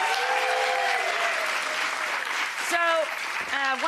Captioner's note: applause